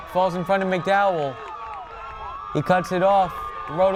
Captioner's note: crowd cheering